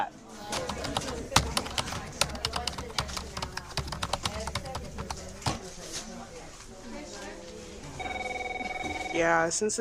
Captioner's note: keyboard typing noises, people talking and working